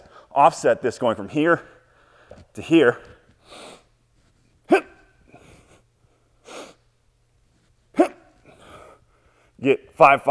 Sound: inhaling through nose / grunting coming up

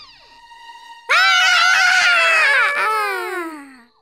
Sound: screaming

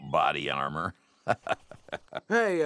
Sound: laughs

